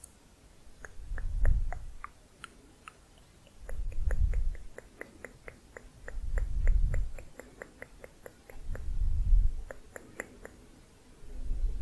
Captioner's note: tongue clicking